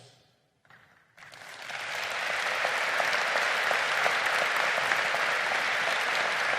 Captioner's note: crowd applauding